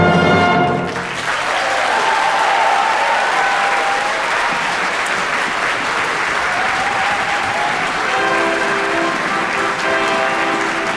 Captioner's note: applause